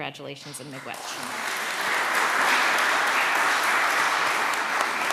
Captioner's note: applause